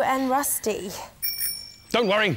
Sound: ding! Ding!

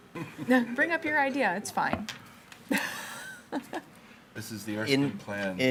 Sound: laughs

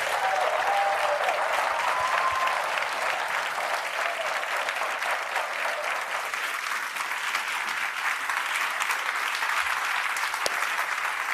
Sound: applause

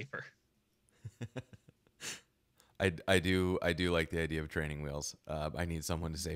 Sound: laughing

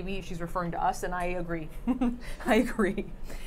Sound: Safiya laughing

